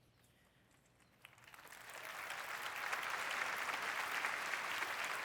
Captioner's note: applause